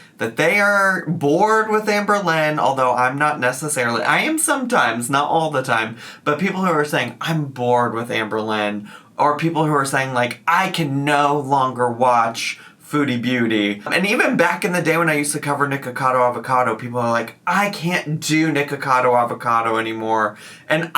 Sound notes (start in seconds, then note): none